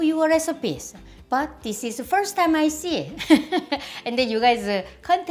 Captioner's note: laughs